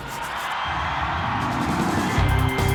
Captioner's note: brush scraping; electronic crescendo; crowd cheering; upbeat music